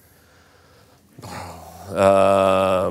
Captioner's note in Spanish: suspira